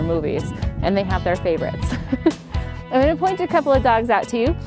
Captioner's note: laughter